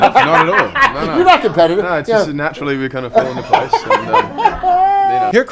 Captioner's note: host laughing